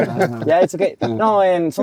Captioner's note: laughing